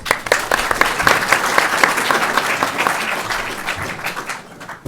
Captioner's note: audience applauding